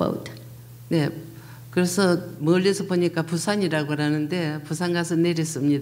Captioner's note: speaking foreign language